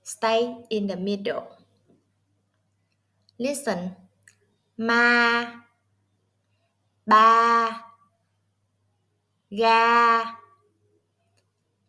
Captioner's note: Vietnamese